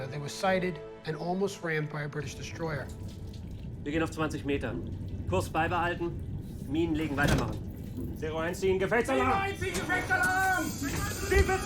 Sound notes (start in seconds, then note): 3.8 speaking in foreign language; 9.3 man yelling in foreign language; 11.4 captain yelling in foreign language